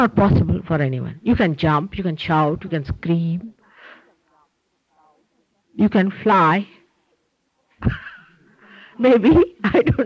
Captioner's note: she laughs